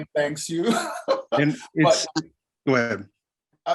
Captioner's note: laughs